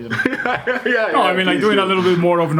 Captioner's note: laughs